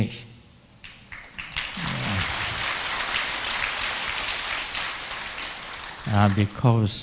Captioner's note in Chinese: 眾鼓掌